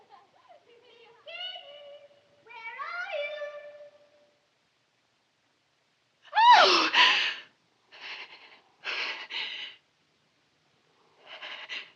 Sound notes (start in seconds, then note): 6.4 screams, gasps